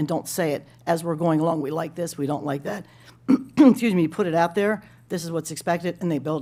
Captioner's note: clears throat